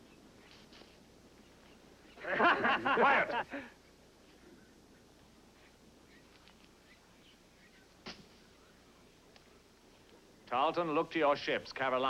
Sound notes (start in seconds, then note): 2.2 men Laughing